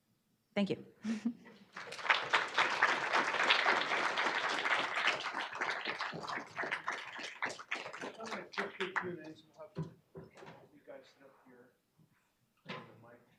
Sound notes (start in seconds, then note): 1.7 applause